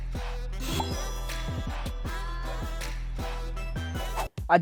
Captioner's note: bell dings